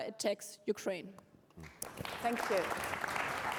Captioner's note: applause